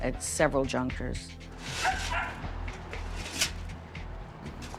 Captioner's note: dog barking